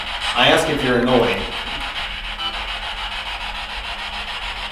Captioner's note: static buzzing